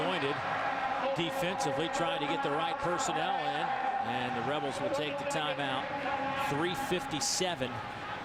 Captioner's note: crowd noise